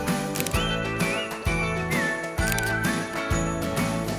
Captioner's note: camera snapping